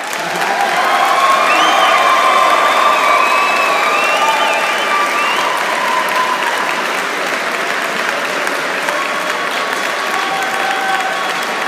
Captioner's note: cheers